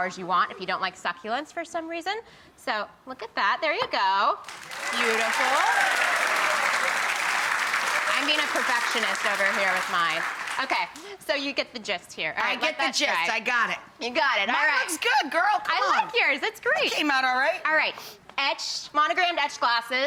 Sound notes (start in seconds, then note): 7.0 audience cheers and claps